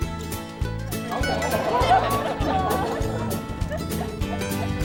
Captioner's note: people laughing